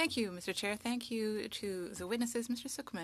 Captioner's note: speaking French